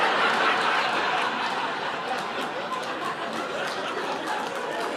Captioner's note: audience laughing